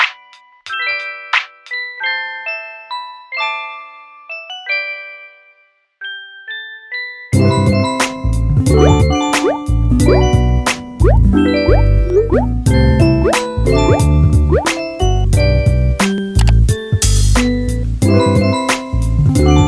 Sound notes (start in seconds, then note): 8.5 bloop; 16.3 click